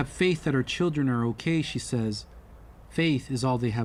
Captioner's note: speaking alternate language